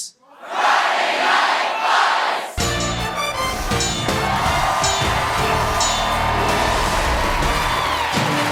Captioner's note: cheers and applause